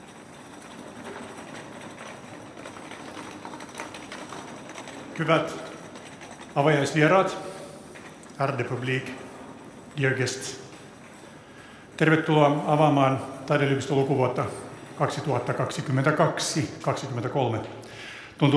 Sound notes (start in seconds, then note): 8.2 speaks Swedish